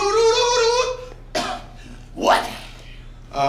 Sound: coughs

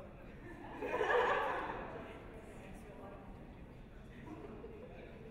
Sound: audience laughs

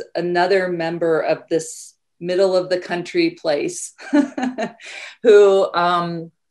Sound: laughs

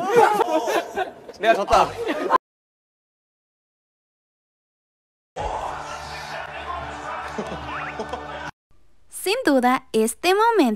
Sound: laughs

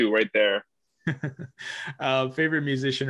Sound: chuckles

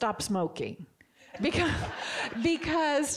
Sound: audience giggling

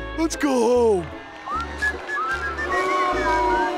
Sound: crowd booing; whistling

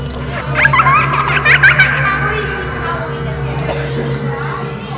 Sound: girl laughing hysterically

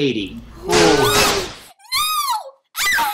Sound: screams

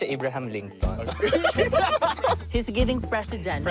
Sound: laughing

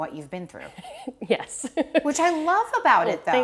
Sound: laughing

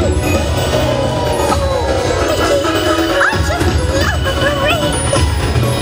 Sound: Minnie giggles

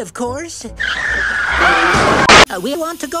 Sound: Cars crashing, Rabbit screaming

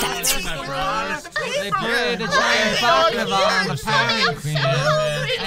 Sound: murmurs, shouting

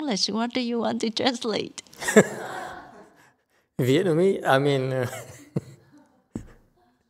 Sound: and audience laughs

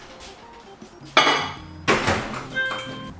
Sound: microwave door popping; plate scraping; microwave door thudding; microwave beeps

